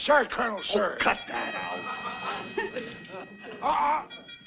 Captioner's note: audience laughs